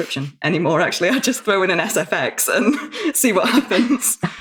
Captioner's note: laughs